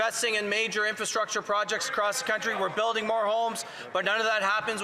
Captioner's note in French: voix de l'interprète